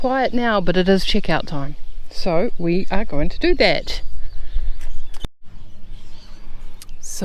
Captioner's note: birds chirp